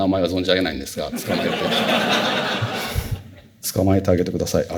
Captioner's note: laughter